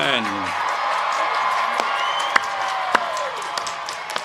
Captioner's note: crowd cheering